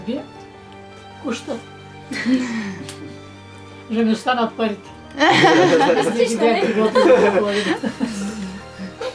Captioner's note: she is laughing